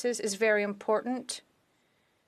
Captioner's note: speaking FRENCH